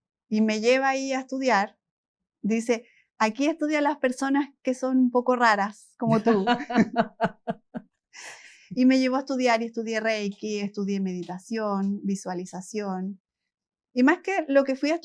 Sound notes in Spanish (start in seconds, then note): 6.1 risas